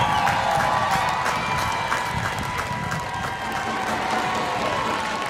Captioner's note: applause